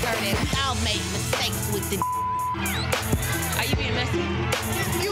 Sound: beep

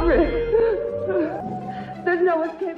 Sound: crying

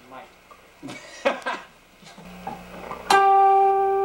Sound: laughter

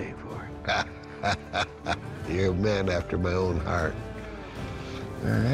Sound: laughs

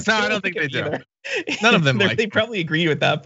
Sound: laugh

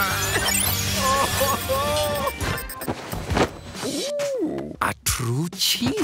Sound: whirring and beeping; Babu laughing

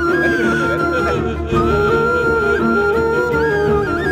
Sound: loud sobs

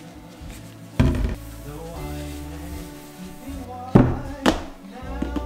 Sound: burping; squeaking; banging

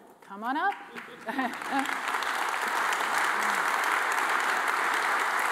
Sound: audience applauding

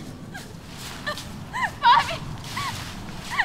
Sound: Veronica sobbing

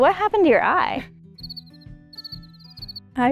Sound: crickets

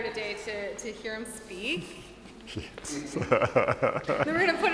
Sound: laughs

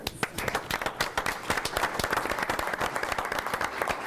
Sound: group applauds

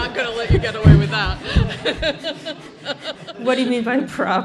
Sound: laughing

